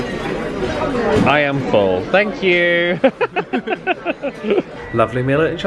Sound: chuckles

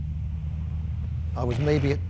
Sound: engine cutting out

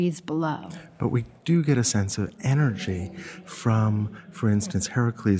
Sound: voiceover

